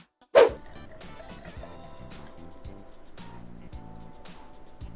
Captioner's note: pouring milk